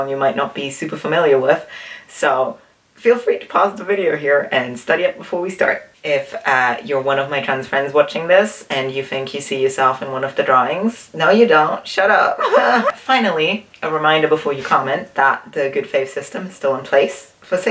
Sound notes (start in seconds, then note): 12.4 nervous laughter